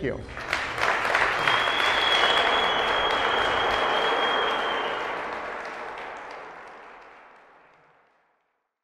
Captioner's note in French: applauding